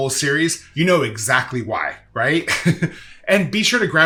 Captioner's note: laughs